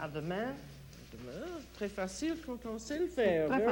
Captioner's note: conversing in French